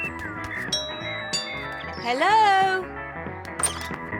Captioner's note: doorbell rings